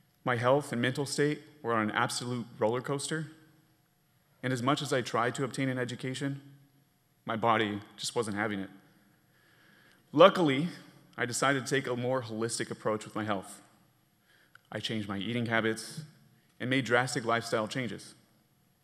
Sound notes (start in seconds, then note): none